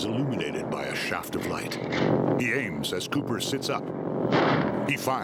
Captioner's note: dramatic chord; rifle cocking; gunshot